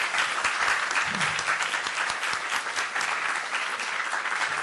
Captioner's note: applause